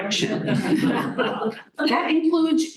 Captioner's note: laughter